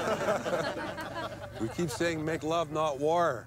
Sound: all laughing

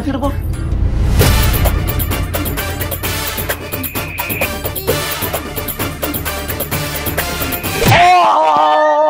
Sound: quarreling

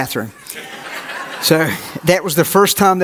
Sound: audience laughs

